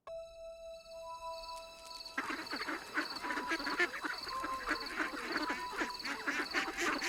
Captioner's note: mysterious music; ducks quacking